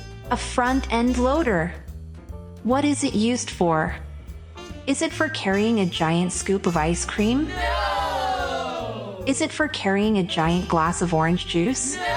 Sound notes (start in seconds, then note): 7.5 group of children shout “Nooooo”